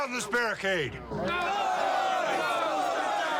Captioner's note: shouting